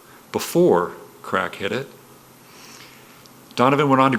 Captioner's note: none